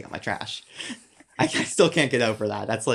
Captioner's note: both chuckles